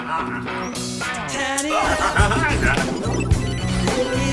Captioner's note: man laughing; game trilling; phone ringing